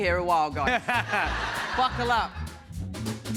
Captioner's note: laughter